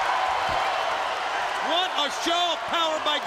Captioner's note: crowd cheering